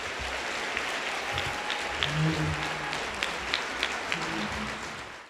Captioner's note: applause